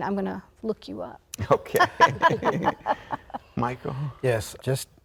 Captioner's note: all laughing